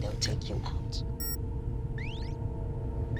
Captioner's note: gadget bleeps